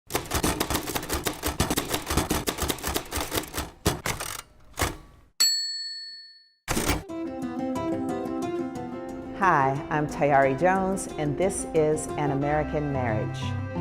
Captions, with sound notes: (keys punching) (bell ringing) (upbeat music) - Hi, I'm Tayari Jones, and this is An American Marriage.